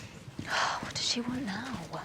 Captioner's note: sniffs